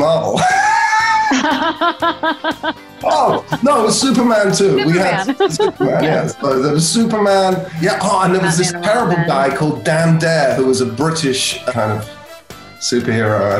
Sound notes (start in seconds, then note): 0.3 laughter; 5.0 laughs